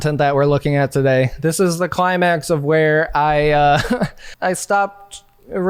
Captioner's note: laughing